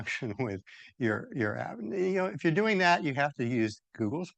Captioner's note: laughs